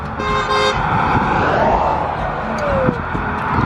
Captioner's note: honking